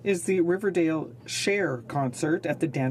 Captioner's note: speaking French